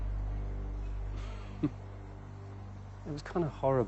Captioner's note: chuckles